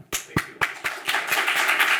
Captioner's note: applauds; audience applauds